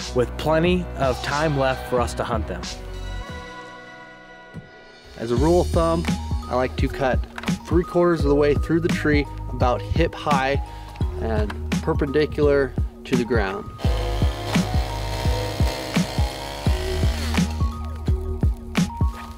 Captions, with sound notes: with plenty of time left for us to hunt them. - As a rule of thumb, I like to cut three quarters of the way through the tree, about hip-high and perpendicular to the ground. (chainsaw buzzing) (industrious music)